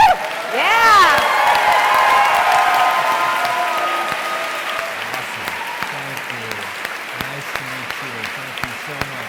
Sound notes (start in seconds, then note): 2.5 audience cheering